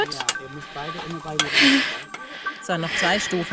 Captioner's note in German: Sie atmet schwer